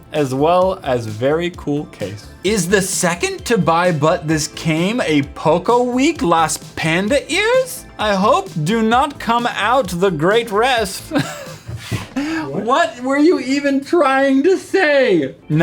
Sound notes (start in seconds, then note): 11.1 laugh